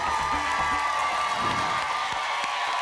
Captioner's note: whoosh; applause and cheering cont